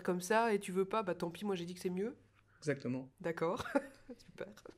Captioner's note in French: rires